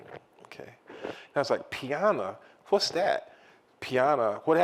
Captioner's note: italian; italian